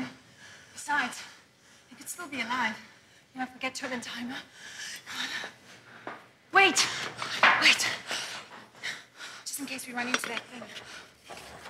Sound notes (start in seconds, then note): none